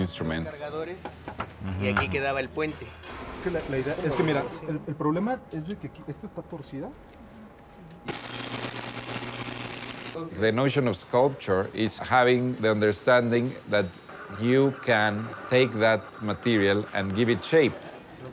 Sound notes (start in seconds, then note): 1.6 speaking Spanish; 8.0 welding